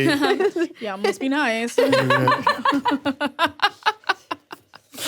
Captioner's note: both laughing